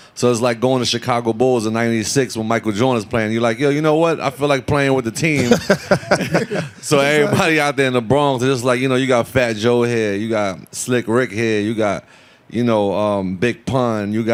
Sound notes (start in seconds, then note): 5.3 all laughing